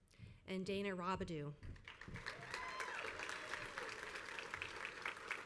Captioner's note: crowd applauds